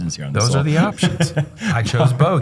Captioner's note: chuckles